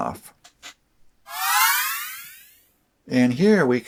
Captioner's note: surprise sound